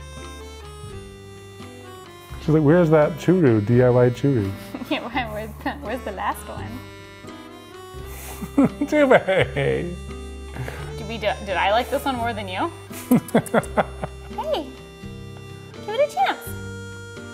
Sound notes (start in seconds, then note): 12.9 laughs